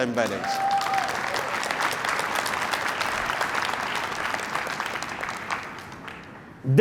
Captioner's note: applause